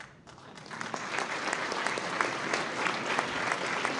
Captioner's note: applause